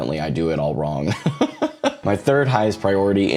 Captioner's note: laughs